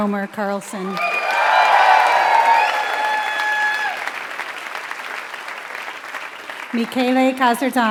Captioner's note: applause